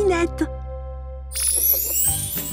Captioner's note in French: bruit de baguette magique